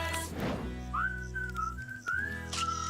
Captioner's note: whistling; camera Snapping